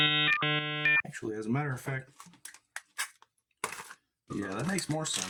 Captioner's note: dial-up internet connection noise